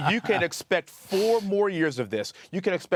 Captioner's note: laughter